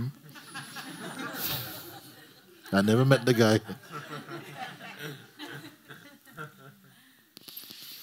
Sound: laughter

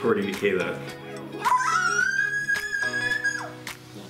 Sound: screeching

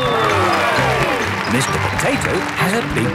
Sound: cheering

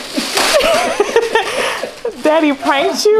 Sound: laughing

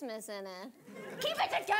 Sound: audience laughing

